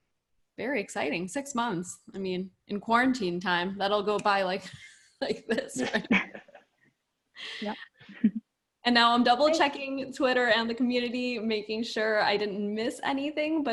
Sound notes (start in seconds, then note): 5.5 laugh